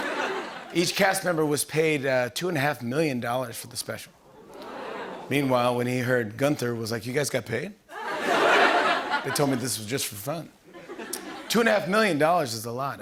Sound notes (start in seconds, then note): 4.3 audience ohh's